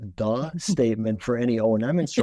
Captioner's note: chuckling